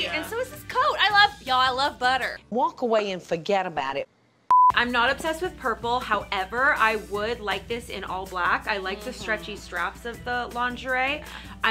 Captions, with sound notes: - Yeah. - And so is this coat, I love, y'all I love butter. - Walk away and forget about it. (screen beeps) - I'm not obsessed with purple. However, I would like this in all black, I like the stretchy straps of the lingerie.